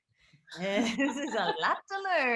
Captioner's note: laughs; Sarah chuckles